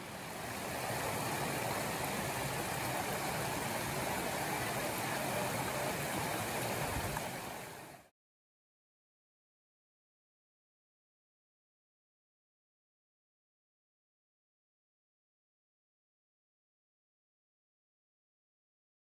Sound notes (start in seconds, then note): 0.0 rush of water